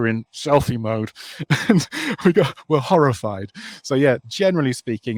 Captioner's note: laughs